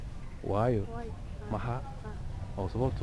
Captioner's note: somali